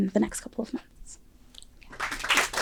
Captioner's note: applause